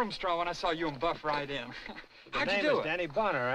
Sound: chuckles

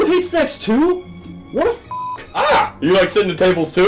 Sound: beep

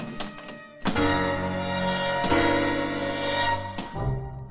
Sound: dramatic orchestral music; loudly thuds; light orchestral music

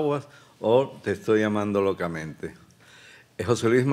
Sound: speaking Spanish

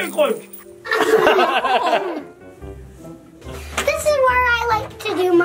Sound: all laugh

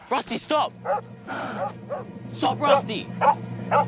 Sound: Rusty barking

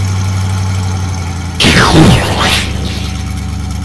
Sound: explosion

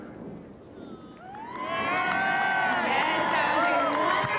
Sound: cheering and applause

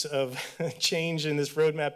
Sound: chuckle

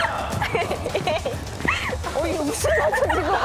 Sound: chuckling

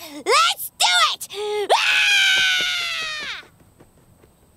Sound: screaming

